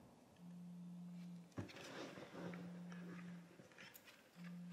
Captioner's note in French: vibreur